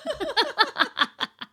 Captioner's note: laughing